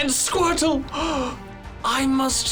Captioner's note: gasps